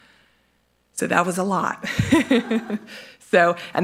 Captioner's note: laughs